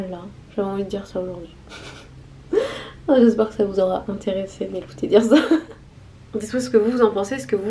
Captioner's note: laughs